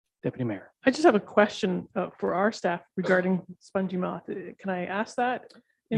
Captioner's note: murmurs